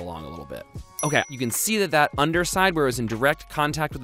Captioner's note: dings